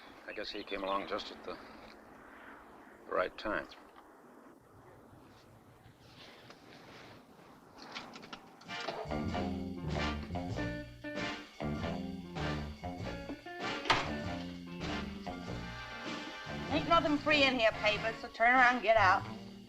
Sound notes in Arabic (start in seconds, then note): 9.1 موسيقى مبهجة; 13.8 خشخشة الباب